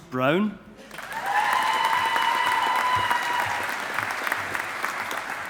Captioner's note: audience applauding